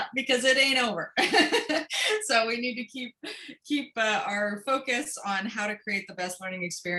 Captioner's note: laughter